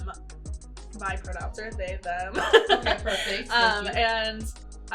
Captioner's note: laughs